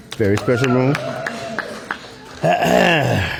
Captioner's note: applause